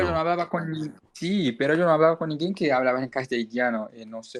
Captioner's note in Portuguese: espanhol